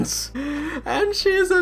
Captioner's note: heavy breathing